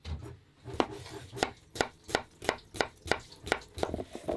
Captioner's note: knife thudding